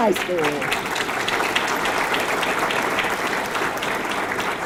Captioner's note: audience clapping